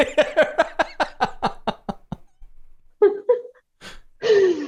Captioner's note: laughter